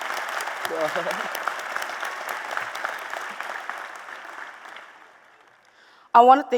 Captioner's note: applause